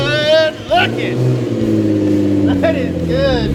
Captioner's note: engine roars